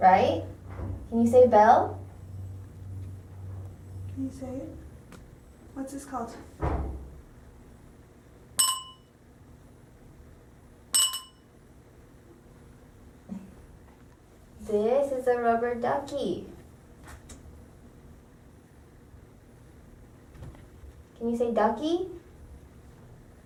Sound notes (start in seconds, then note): 8.4 ding